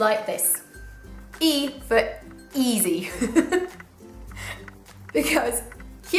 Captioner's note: laughter